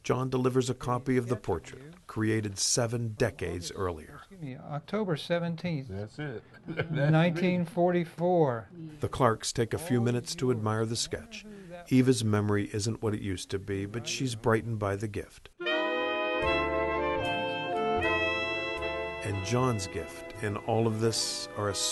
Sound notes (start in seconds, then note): 6.2 laughing